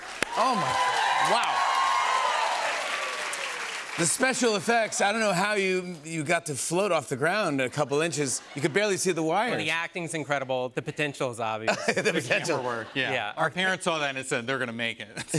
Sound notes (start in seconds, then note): 1.8 cheers and applause; 15.1 laughter